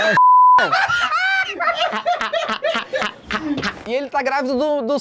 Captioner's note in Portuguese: risadas